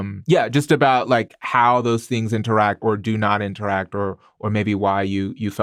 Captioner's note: none